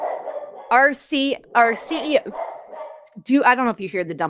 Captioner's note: barking continues